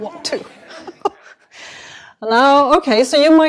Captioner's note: laughter